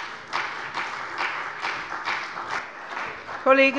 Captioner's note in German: Beifall bei der CDU